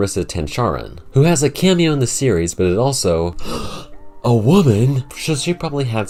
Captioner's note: gasp